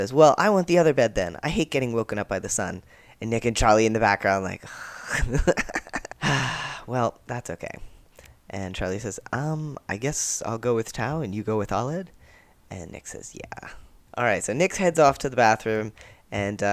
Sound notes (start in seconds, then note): 4.5 exasperated noise; 6.2 sigh